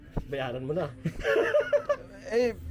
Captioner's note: laughs